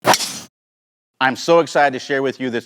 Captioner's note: ball thwacking